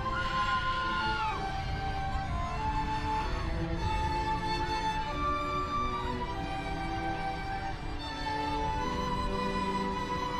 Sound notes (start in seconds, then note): none